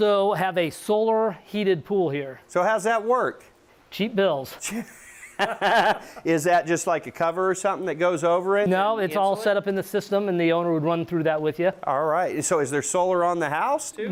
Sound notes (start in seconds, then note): 4.6 laughs